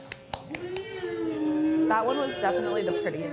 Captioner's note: crew member humming